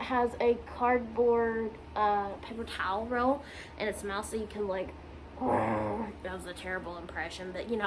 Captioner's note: tries and fails to make a dragon noise